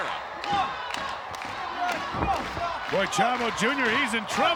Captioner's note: applause